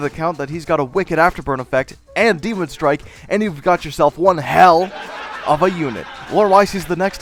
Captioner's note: laugh track